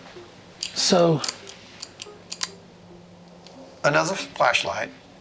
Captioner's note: flashlight clicks